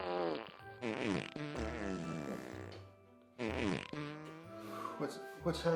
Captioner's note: Arizona, Emma and Bailey farting in synchrony